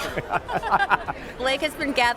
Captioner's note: laughs